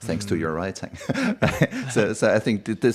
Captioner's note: laughs